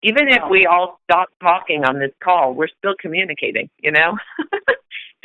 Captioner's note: chuckle